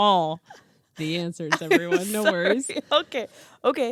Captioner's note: laughing